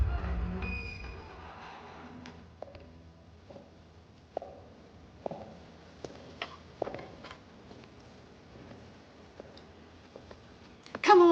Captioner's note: door creaks open